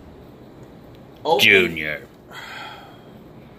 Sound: intercom

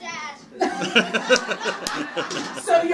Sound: laughing

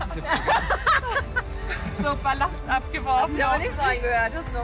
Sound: laughter

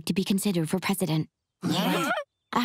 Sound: gasping

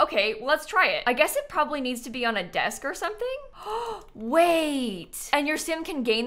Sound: gasps

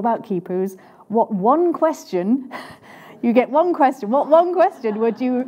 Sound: chuckles

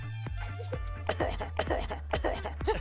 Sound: coughing; laughing

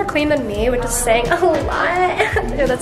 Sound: laughs

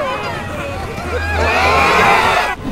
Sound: group screaming

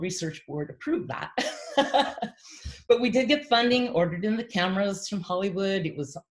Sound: laughs

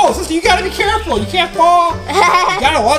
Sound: laughing

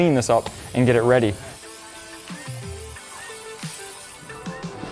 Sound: spray swooshes

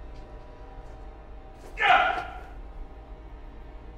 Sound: yells

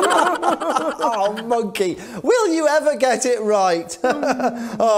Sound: sigh

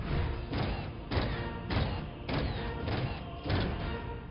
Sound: forceful stomping

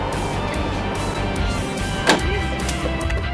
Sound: helicopter door closes

